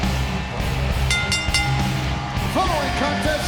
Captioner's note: bell dings